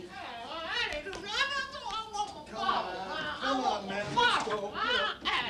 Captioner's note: none